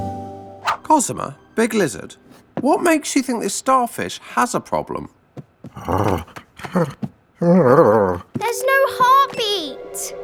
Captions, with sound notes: - Cosima, Big Lizard, what makes you think this starfish has a problem? (Big Lizard grunting) (fist thumping) - There's no heartbeat!